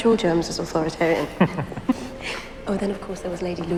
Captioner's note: laughing